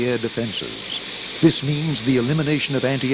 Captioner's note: jet engine buzzing